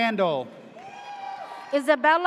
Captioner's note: audience cheers